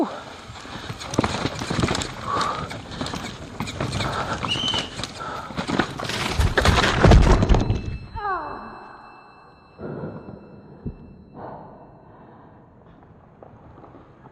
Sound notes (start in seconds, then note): 3.2 heavy breathing; 4.4 whistle blows; 6.4 thud; 8.3 painful gasp